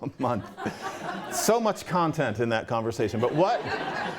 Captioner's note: laughter